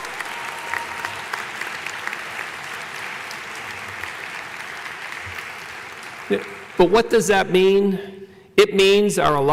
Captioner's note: applause